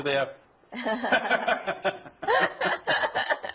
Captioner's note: both Laugh